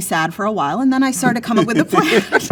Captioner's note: laughing